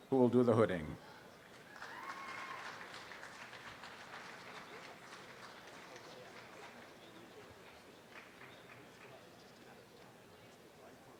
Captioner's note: audience applause